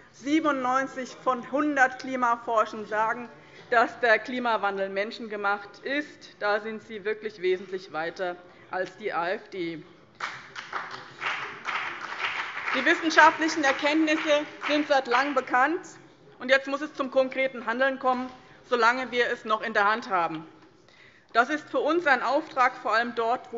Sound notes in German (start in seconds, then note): 10.1 Beifall BÜNDNIS 90/DIE GRÜNEN